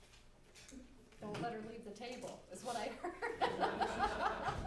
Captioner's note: background laughter